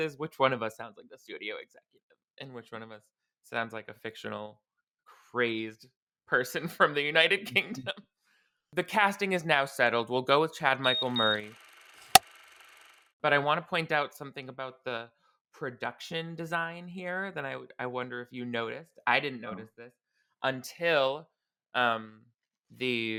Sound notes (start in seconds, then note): 10.8 beeping; 11.3 clapperboard claps